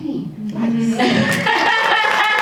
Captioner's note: laughing; audience applauding